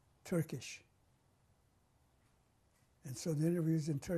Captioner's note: pauses for 3 seconds